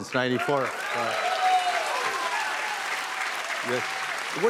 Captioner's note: cheers and applause